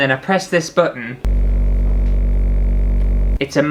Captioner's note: vibrating Sounds